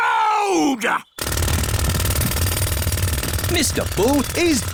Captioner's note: drilling